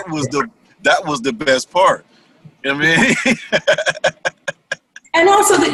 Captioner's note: laughter